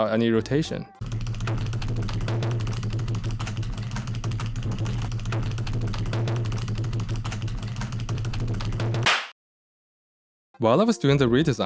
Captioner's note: keyboard sound